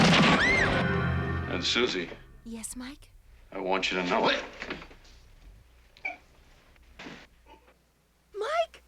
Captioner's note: screaming